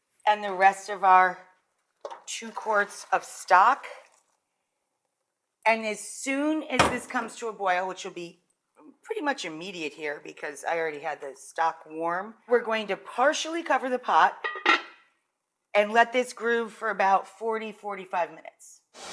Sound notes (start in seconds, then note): 14.4 lid clinks